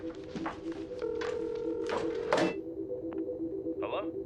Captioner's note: phone ringing